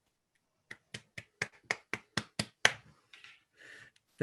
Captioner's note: clapping